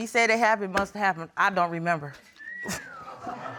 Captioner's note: woman whistles lightly; audience chuckles